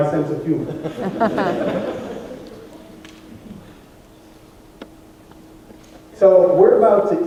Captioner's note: laughter